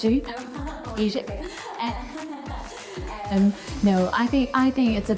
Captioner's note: laughs